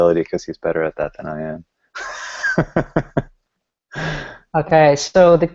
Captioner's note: laughing